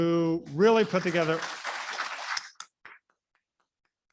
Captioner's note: applauding